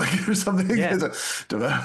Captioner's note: laughs